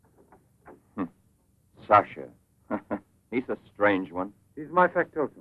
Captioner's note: chuckles